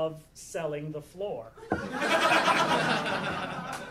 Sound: audience laughing

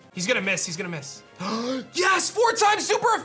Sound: gasps

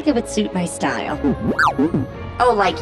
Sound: beeping

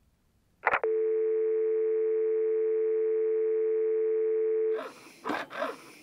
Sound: dial Tone Sound Effect

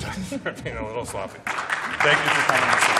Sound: applause

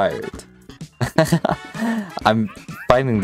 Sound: laughs

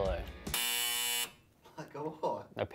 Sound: buzzer sound; chuckle

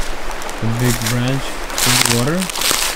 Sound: leaves crunching; water flowing

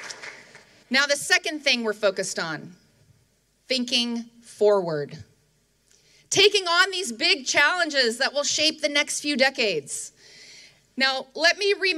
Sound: applause

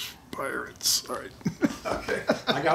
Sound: laughs

